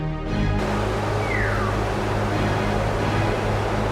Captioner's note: flames roar